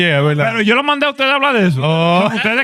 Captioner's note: speaking In Foreign Language